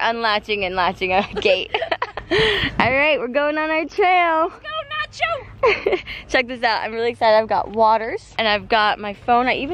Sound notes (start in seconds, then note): 1.2 both laugh